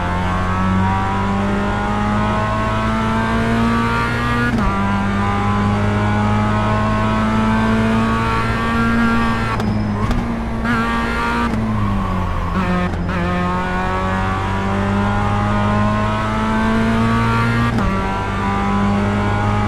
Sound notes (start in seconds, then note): 13.8 engine revving